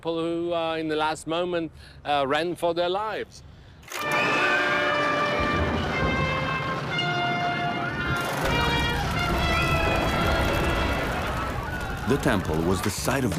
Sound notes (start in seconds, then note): 5.3 screaming